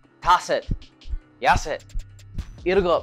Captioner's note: foreign language